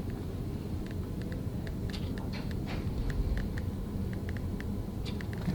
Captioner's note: machine clicks faintly